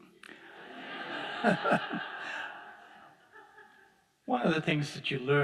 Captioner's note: audience laughing